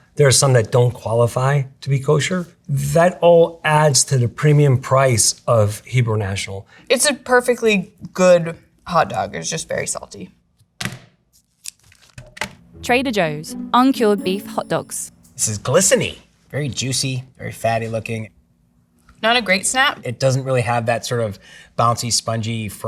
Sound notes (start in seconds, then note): 11.4 plastic rustling; 12.1 package thunks